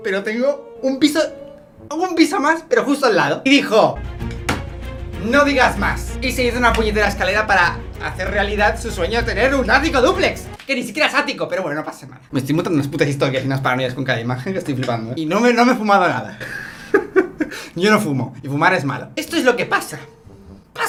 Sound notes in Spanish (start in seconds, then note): 16.4 risas